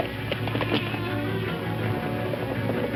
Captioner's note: hooves thumping